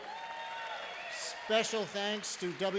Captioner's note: applause